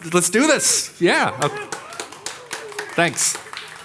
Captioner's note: audience clapping